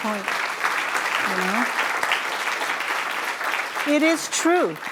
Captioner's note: applause